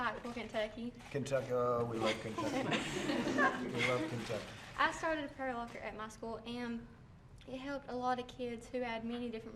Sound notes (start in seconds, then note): 2.1 laughter